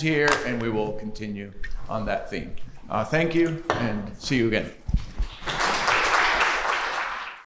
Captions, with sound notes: here and we will continue on that theme. Thank you and see you again. [Applause]